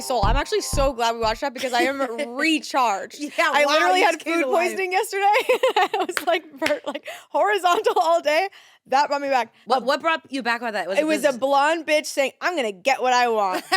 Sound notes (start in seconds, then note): 5.8 laughs; 13.5 laughs